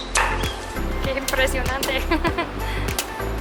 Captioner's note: laughter